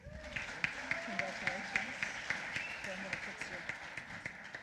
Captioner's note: applause